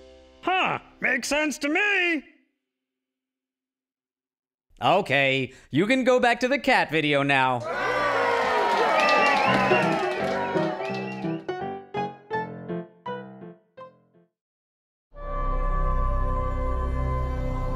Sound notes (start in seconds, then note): 7.6 cheering; 8.6 ragtime music